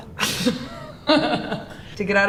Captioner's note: interviewee giggles